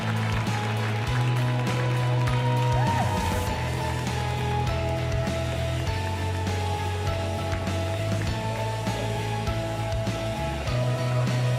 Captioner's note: cheers and applause